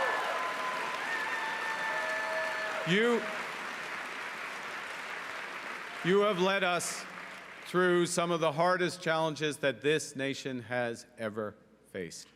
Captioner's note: cheering and Applause